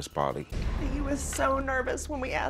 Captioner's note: voice breaking